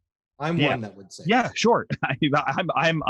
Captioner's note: chuckling